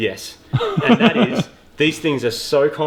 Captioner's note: laughs